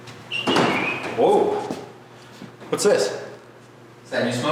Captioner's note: whistling